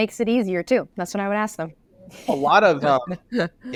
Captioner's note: laughs